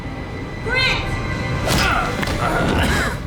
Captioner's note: grunts